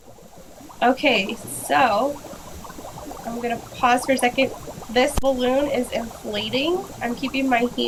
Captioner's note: bubbling sound